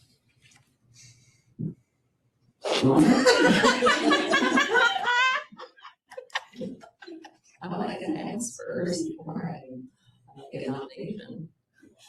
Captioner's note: laughter